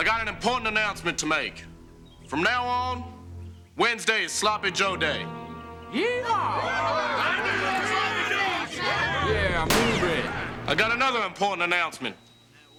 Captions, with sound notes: I got an important announcement to make. From now on, Wednesday is Sloppy Joe Day. -Yee-haw. -[cheering] [men mumbling] I got another important announcement.